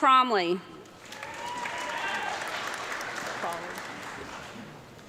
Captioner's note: audience clapping